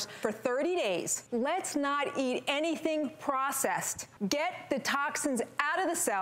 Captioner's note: none